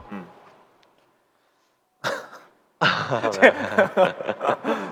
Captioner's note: coughs